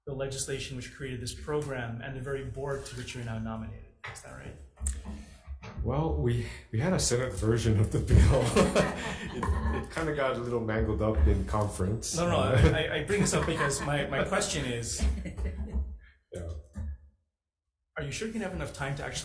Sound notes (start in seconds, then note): 8.2 laughing; 13.2 laughing